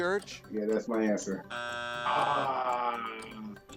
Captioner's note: buzzer sounds